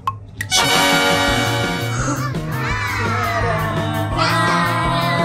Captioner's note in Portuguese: som de surpresa